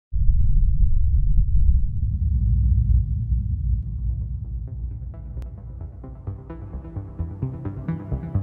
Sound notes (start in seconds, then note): 0.1 low rumbling; 4.4 soft futuristic music